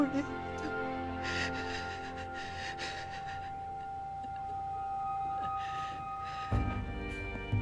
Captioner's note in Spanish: Sollozos